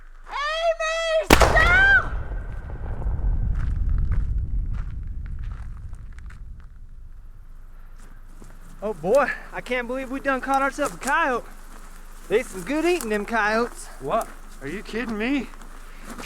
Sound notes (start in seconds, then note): 1.3 thunderous crack booming; 3.5 footfalls crunching